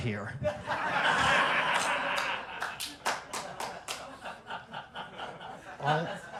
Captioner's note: laughter